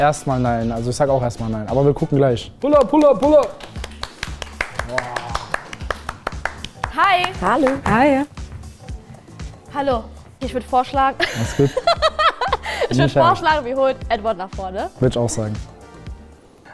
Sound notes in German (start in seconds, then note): 2.6 Klatschen; 2.6 Anfeuernde Laute